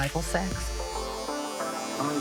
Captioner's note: electric clippers buzzing